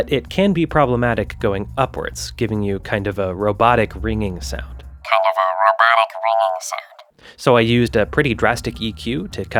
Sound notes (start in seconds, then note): 5.0 robotically